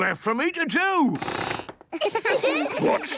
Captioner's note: squeaks